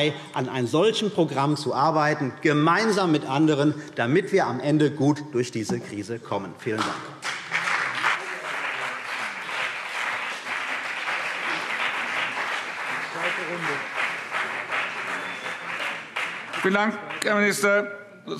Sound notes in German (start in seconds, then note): 8.8 Beifall CDU und BÜNDNIS 90/DIE GRÜNEN